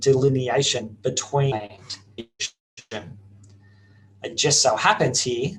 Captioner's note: audio skips